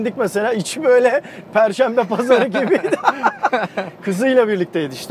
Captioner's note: laughings